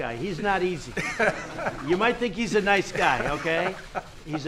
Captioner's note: laughter